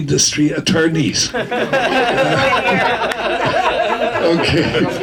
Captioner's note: audience laughing